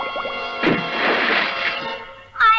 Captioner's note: splash!